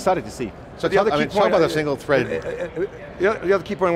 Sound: group chattering

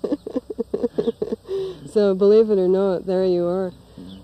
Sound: laughs

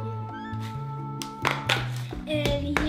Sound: package opening

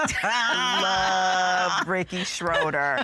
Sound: laughing

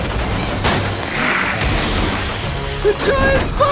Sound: dramatic music; hissing

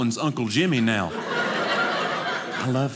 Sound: audience laughing

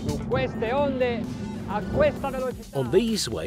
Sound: speaking in Italian

